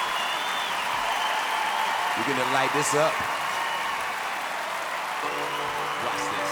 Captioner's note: cheering